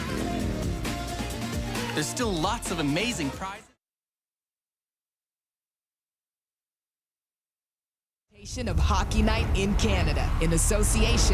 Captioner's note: engine revving